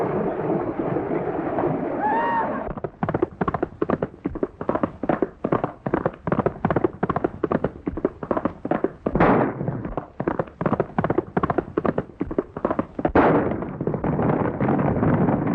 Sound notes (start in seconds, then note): 9.1 gun fires